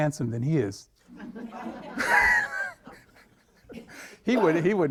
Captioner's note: all laughing